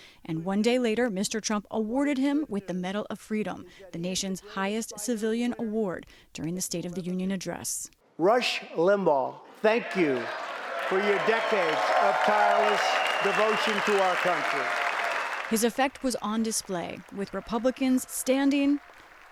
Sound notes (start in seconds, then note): 14.6 cheering and applause